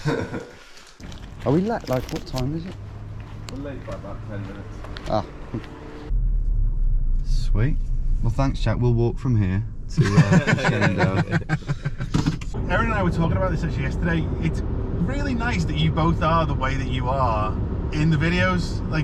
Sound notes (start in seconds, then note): 0.0 chuckles; 9.9 laughs